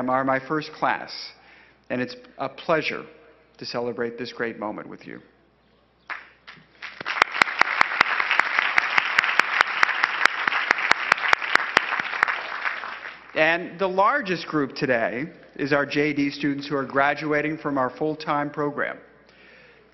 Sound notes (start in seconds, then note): 6.4 crowd applauding